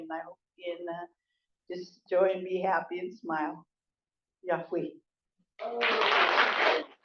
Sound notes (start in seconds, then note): 4.5 non-english; 5.6 applause